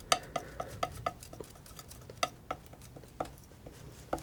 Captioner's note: scratching